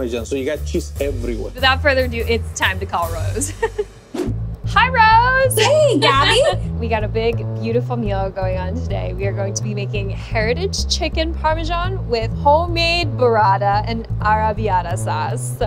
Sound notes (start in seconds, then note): 3.4 chuckles; 4.0 air whooshing; 5.6 chuckling